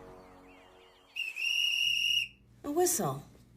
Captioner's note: whistle blows